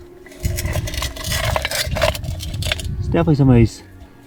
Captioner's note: metal scraping on rocks